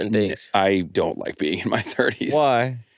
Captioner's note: laughs